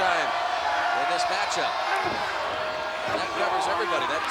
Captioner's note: crowd cheering